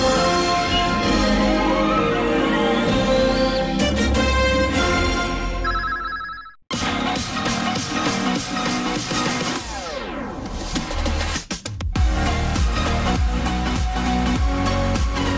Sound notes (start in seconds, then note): 5.8 communication signals dialing; 6.7 hyped dance music plays